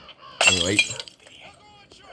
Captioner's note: bottles break